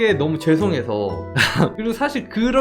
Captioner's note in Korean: 웃음